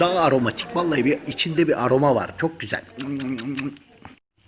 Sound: lying voice

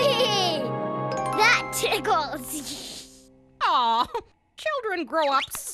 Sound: laughing

